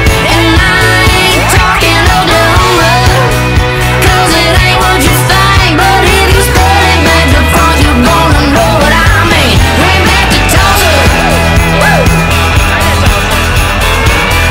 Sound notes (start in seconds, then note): 10.8 woo, woo